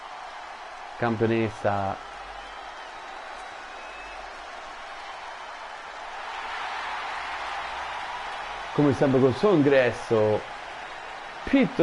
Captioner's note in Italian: Applauso